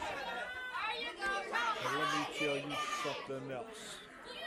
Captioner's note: crowd chatter